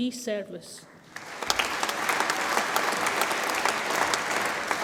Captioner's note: audience applauds